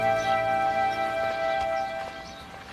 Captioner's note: birds chirping